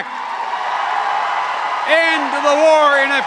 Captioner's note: cheers and applause